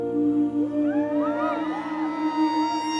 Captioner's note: Cheering